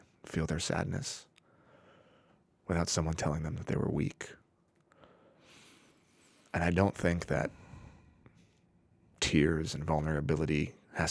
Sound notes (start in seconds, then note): none